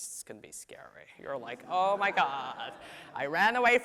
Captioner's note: audience laughs